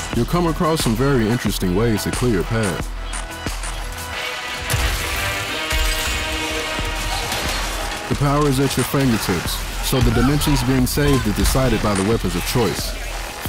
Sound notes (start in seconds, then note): 4.6 slosh; 7.0 scraping metal